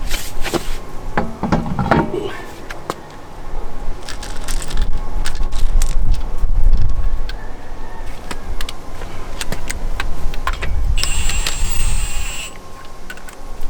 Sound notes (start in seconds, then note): 0.0 tire clanks; 4.0 tools rustle; 10.9 drill buzzes